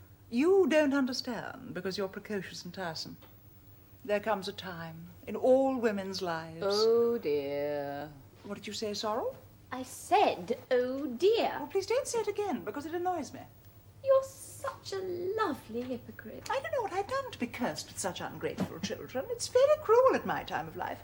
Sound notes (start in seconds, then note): 8.3 JUDITH, curtly; 9.7 SOREL, changing intonation